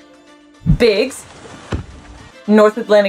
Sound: background music; thudding noise of orca onto water

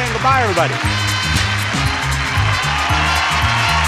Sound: audience cheers; upbeat music

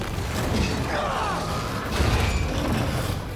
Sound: none

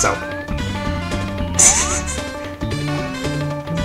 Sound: subtle laughter

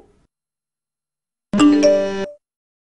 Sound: iPhones set off

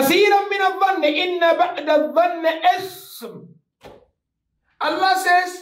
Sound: Arabic

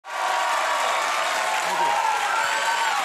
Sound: audience cheering

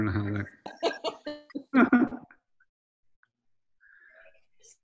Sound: Kara laughing

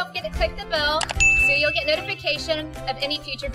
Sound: bell rings

